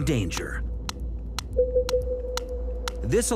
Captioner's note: sound pulses booming